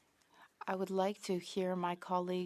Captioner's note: speaking French